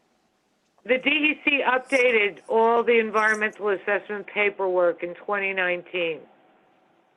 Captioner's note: phone